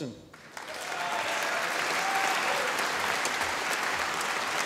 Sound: audience applauding

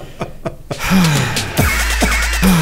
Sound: sigh

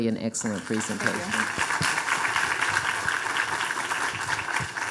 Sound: audience applauding

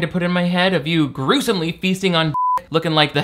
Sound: beep

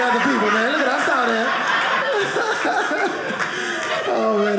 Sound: audience laughing

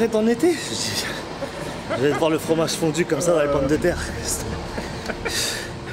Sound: laughs

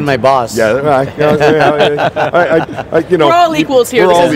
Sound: chuckles

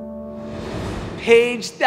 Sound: air swooshing

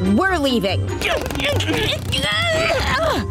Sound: grunting

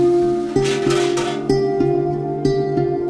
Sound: bell clanking; peaceful music

